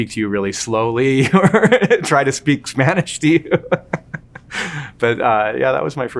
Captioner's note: laughing